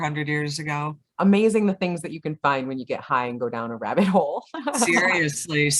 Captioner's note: laughs